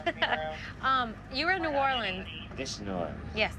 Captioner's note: laughs